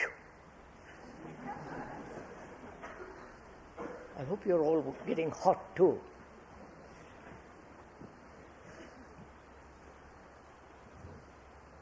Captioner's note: laughter